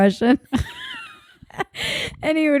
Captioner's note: laughing